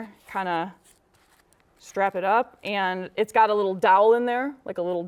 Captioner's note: none